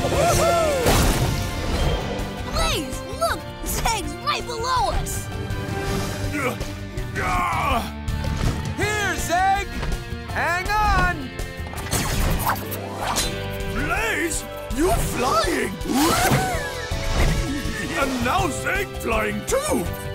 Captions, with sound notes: [cheering] Blaze, look, Zeg's right below us. [grunting] Here, Zeg, hang on! Blaze, you flying! And now Zeg flying too!